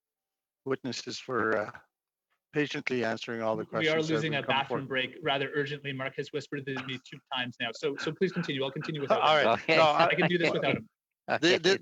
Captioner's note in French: voix de l'interprète